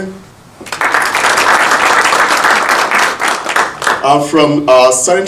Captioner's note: audience applauding